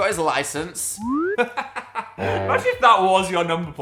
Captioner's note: Phil laughing